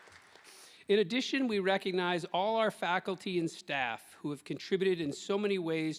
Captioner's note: applause